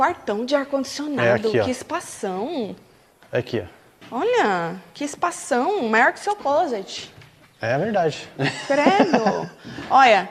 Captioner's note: laughing